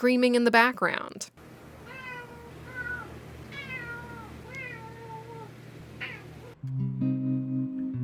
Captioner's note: meow